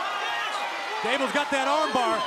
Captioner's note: crowd cheering